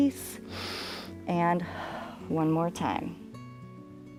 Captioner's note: inhales